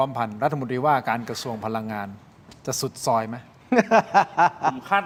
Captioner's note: laughs